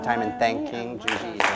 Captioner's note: applause